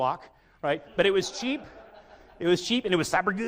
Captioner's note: audience laughs